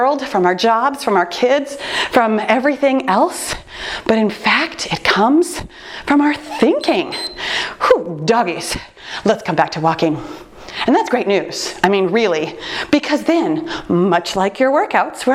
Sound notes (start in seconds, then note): 6.4 timer beeps